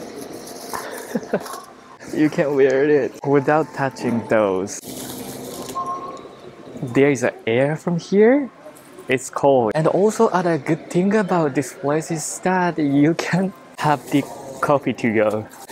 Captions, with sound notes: [CHUCKLES] You can't wear it without touching those. There is a air from here. It's cool. And also, other good thing about this place is that you can have the coffee to-go.